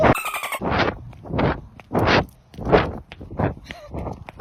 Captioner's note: birds chirping